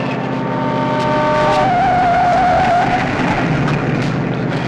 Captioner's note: horns wailing